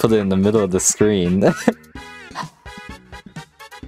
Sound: laughs

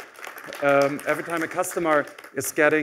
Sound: applause

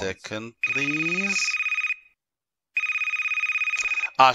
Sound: phone rings

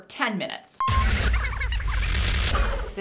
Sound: high pitched tape rewinding

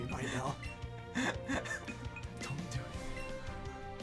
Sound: laughs

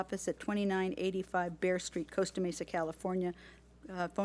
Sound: none

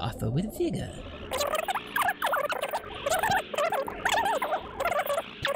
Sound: epic Fast-Forwarding Sounds

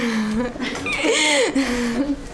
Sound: laughs

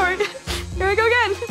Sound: sniffles

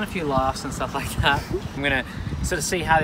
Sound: both chuckling

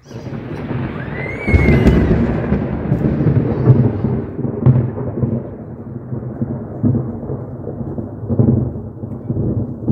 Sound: extremely loud thunder booms; extremely loud thunder crackles; loud thunder gets quieter and echoes

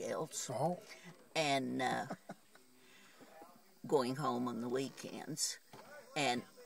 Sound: chuckles

